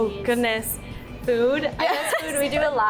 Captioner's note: laughs